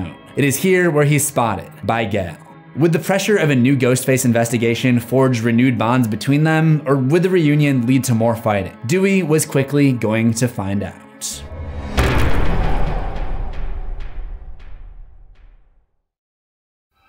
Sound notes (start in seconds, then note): 11.3 impact